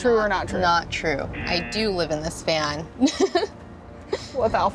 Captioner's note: laughs